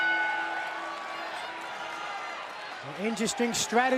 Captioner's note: bell ringing